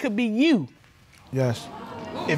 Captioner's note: audience exclaiming